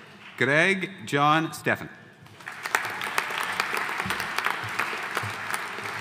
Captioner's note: audience applauding